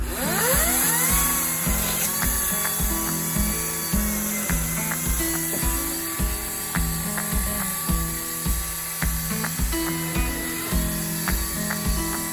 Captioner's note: electric chainsaw sound